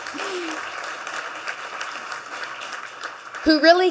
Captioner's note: audience clapping